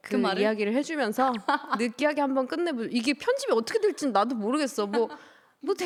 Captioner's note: haha